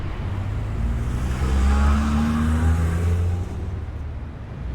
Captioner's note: engine roaring